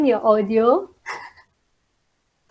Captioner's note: laugh